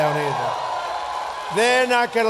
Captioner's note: applause